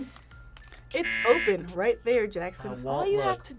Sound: buzzer rings

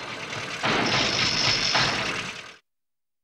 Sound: rumbling

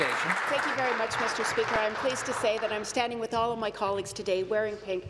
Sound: applause

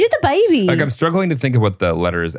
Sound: laughs

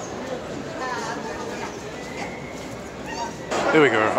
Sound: airport sounds; people chatting

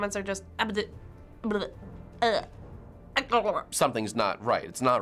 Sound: gurgling

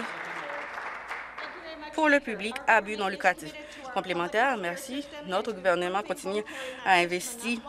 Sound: applause

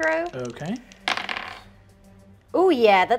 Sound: dice rolling

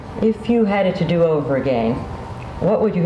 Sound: none

